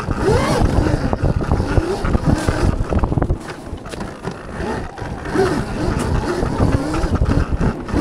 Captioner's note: wind blowing